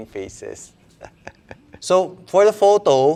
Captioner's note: laughs